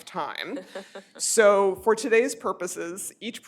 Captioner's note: laughter